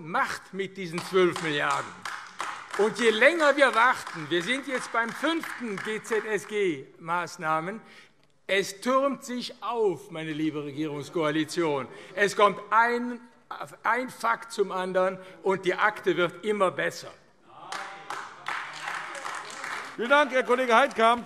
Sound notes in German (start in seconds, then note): 2.7 Beifall AfD; 17.6 Beifall AfD